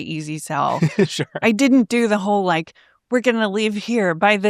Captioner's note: laughs